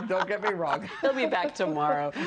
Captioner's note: laughter